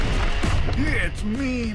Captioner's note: explosion